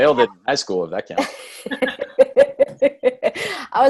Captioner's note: laughs